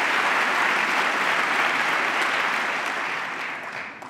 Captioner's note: applause